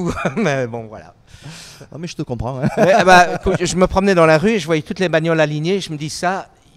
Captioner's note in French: rires